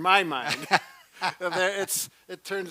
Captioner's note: laughs